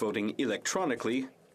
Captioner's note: speaking French